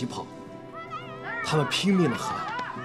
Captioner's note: they shouted at the top of their voice